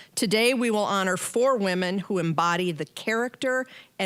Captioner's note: none